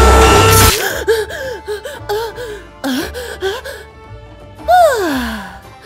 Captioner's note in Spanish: Elfa respirando ajetreada por un exceso de drogas y café